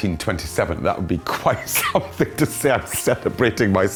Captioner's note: chuckles